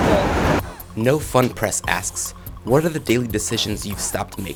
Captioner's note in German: Voice-over